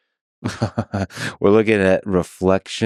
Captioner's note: Lex laughing